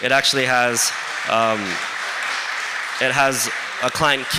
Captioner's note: applause